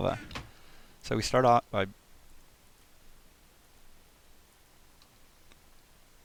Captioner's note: long, awkward pause